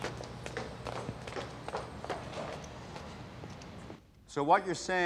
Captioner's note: footsteps thudding